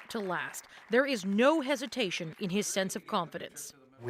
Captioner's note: applause